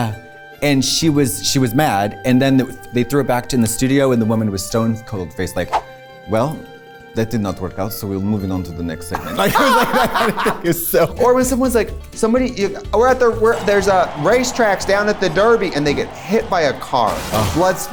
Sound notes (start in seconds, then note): 6.2 Russian accent; 9.1 laughs